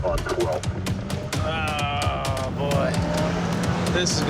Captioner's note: car engine revving